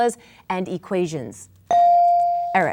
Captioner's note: bell dinging